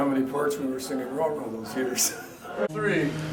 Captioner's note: laughs